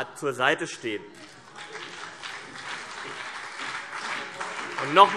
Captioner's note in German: Beifall CDU und BÜNDNIS 90/DIE GRÜNEN